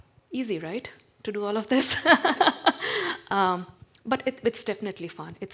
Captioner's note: laughs